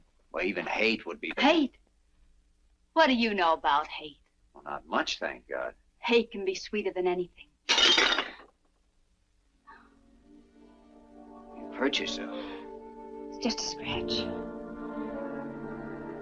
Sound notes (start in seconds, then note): 7.7 clattering; 10.2 brooding orchestral music